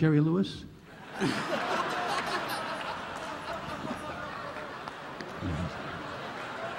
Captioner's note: audience laughing